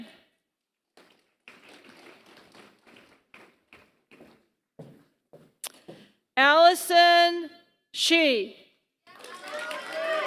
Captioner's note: applause